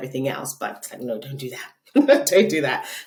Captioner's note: laughing